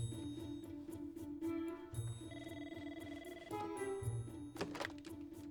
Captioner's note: telephone rings